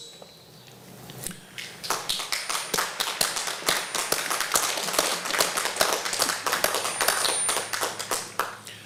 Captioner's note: applause